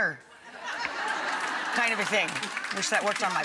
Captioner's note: audience laughs